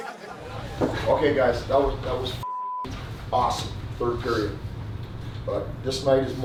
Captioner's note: beep